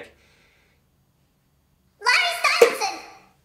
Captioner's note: high pitched yelling